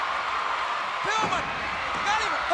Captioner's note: crowd cheering